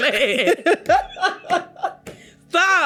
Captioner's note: laughs